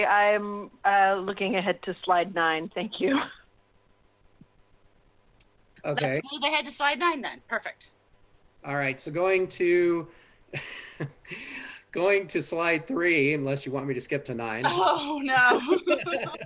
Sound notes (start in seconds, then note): 7.5 laughter; 15.3 laughter